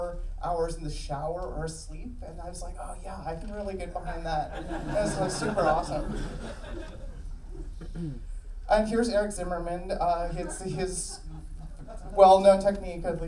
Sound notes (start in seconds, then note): 4.4 audience laughing; 7.6 clears throat